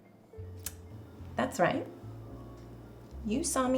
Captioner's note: clicks tongue